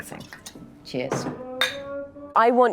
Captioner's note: glasses clink